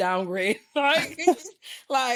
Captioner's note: both laughing